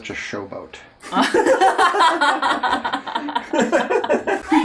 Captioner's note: laughing